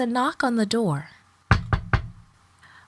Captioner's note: knock knock knock